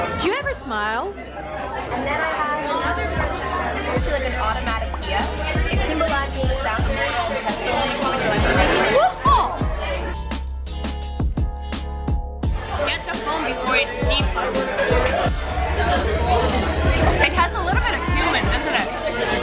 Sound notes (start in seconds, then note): 3.7 upbeat hip hop music; 9.6 upbeat hip hop music; 15.4 restaurant goers chattering; 15.4 upbeat hip hop music